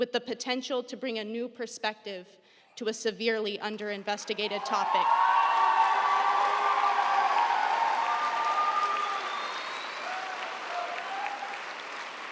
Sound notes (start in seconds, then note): 4.2 audience cheering; 4.4 audience applauding